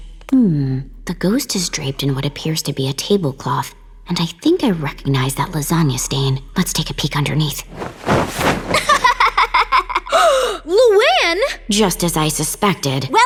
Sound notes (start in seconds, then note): 8.7 laughing